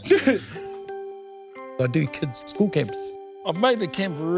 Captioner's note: both laughing